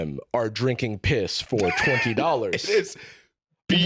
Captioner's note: laughing